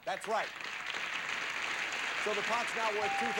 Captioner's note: audience applauding